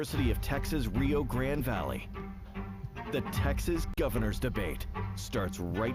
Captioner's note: HABLAN EN INGLéS